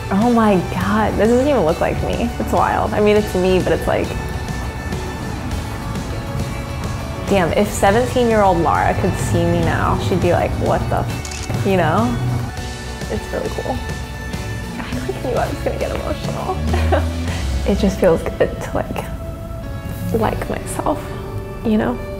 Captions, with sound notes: Oh my God, this doesn't even look like me. It's wild. I mean, it's me, but it's like... Damn, if 17 year old Lara could see me now, she'd be like, "What the (shutter clicks)." You know? It's really cool. I'm just gonna get emotional. (laughs) It just feels good to like myself, you know.